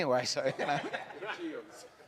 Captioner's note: audience laughs